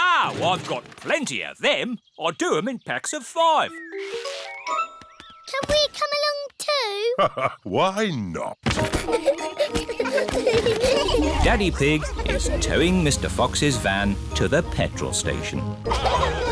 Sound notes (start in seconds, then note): 8.8 children giggling; 8.9 laughs